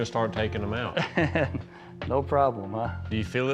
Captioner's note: chuckles